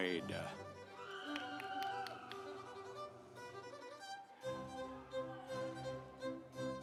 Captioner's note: instrumental music; audience cheering